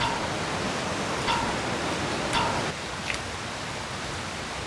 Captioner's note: water splashing